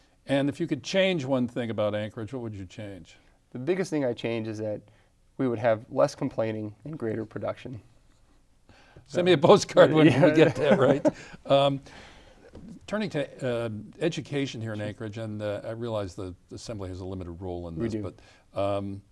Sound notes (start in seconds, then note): 10.0 laughs